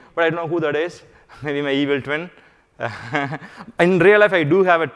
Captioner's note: laughs